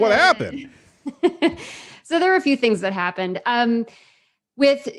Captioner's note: laughs